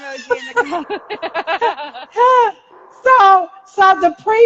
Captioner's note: laughing